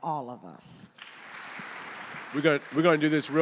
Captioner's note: audience applauding